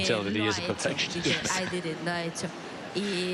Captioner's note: laughs